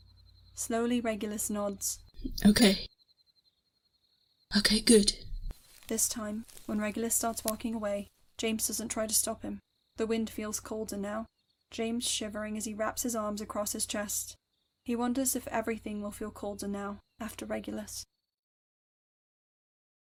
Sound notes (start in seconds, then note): 5.4 footsteps start and crunch away